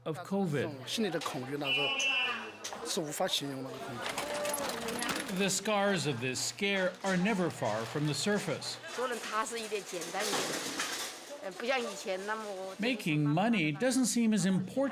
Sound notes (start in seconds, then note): 6.1 speaking foreign language